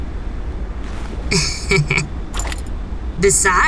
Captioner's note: Ash chuckles, sly